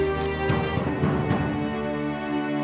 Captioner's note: <i> pounding at door</i>